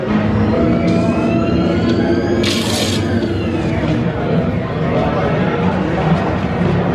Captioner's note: machinery humming; people chattering